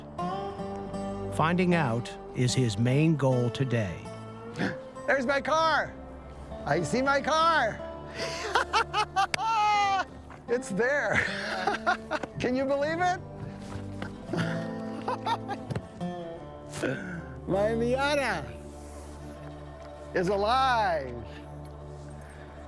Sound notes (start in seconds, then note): 4.5 gasps; 8.1 laughing; 13.6 laughing